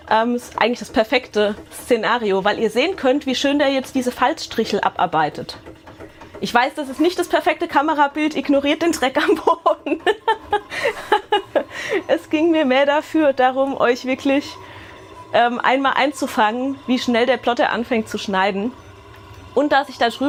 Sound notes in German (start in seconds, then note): 9.3 Gelächter